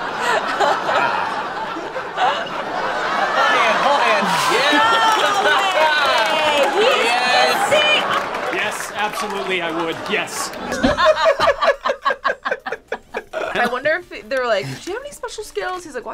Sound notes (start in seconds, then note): 0.0 both laugh; 5.1 laughs; 10.7 group laughs